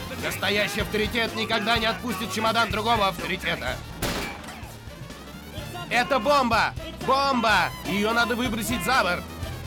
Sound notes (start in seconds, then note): 4.0 gunshot